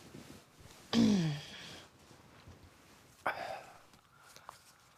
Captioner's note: throat clears